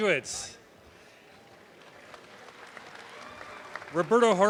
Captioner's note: audience applause